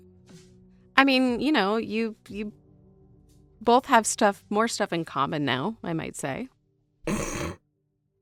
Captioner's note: SOMEONE snorts